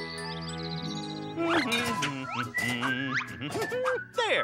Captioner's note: humming